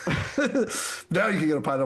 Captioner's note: laughs